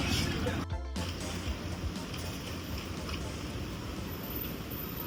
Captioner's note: laughs